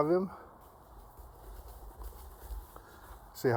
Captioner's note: graceful waddling